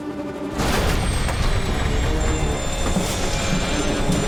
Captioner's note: loud exploding